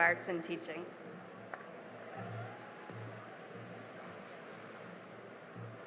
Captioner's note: cheering and applause